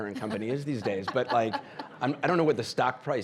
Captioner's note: audience laughing